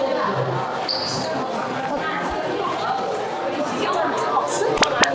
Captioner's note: quick steps